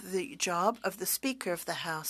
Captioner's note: speaking French